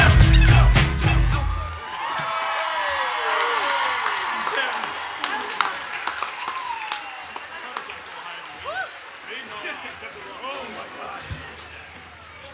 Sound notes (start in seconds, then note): 1.9 cheering and Applause